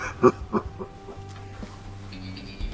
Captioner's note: laughs; suspenseful music